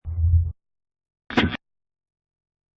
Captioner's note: low woosh; radio static